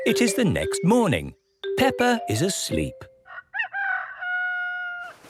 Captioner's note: cock-a-doodle-doo